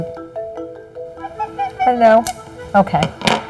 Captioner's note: Joey trilling